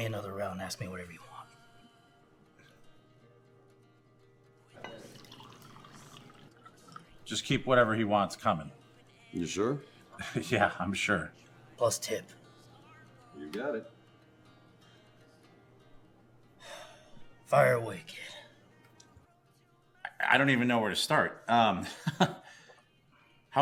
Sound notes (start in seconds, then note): 16.6 Hank sighs; 21.8 chuckles